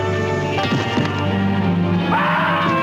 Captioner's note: shrieking